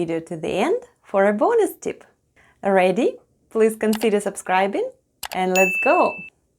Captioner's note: click & ding sounds